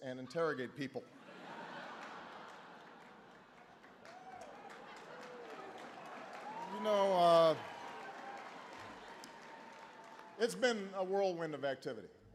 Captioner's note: laughter